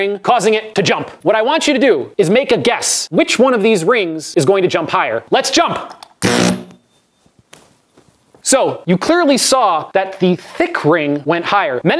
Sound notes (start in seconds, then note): 6.2 coil makes a noise